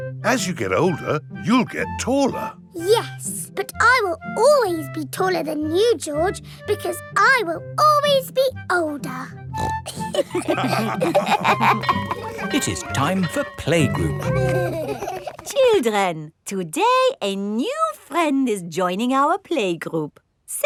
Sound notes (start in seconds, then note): 9.5 snorts; 9.8 all laughing; 11.5 school bell ringing; 13.9 giggling